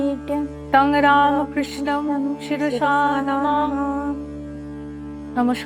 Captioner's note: chanting